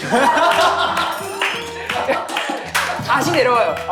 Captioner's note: everyone bursts out laughing